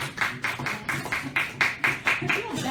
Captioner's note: applause